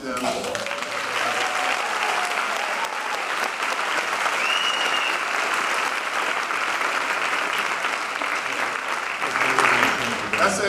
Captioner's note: applause